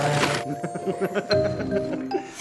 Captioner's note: laughs